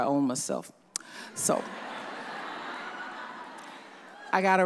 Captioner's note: audience laughs